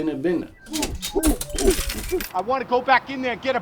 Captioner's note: coins clinging